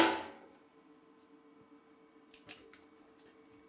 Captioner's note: metal clanging